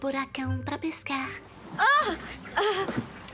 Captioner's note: yelps